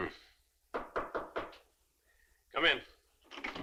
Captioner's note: knuckles rapping